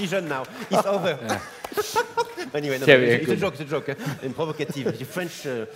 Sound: laugh

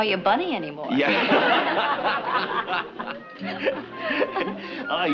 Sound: laughter

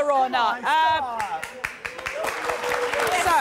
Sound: applause

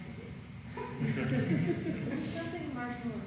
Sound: audience laughter

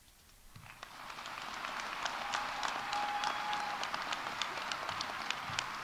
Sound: audience applauding; audience cheering

